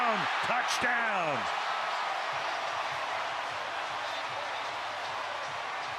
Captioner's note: cheering